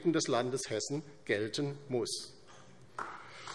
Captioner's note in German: Beifall DIE LINKE